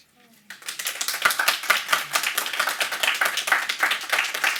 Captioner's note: audience applauding